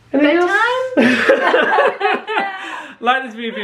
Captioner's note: laughing